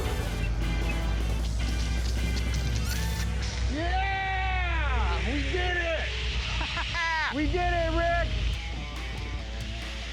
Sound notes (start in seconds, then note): 6.4 laughing; 7.6 rock music